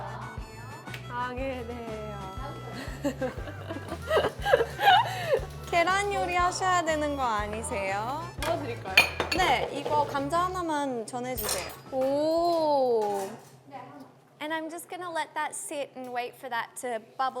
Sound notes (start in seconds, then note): 2.8 awkward laughter to close the bit